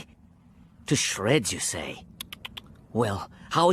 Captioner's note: tk tk tk tk tk